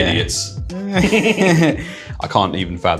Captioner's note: laughter